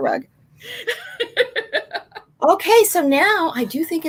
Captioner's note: laughing